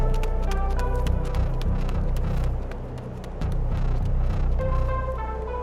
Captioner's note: footfalls fading into the distance